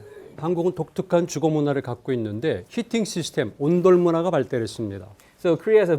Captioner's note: speaking in Korean